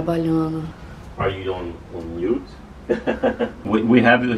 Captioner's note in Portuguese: conversa em inglês